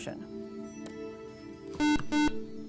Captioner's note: buzzer